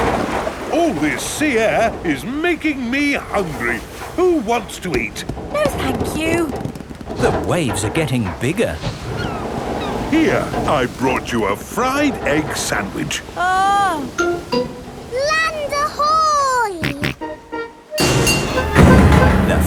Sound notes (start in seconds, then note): 16.7 snorts